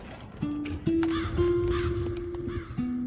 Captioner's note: crow cawing